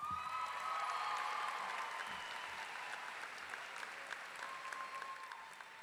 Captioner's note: audience clapping and cheering